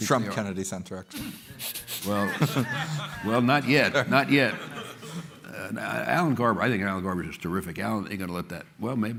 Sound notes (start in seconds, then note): 2.0 laughter